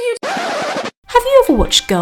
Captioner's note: turntabe scratch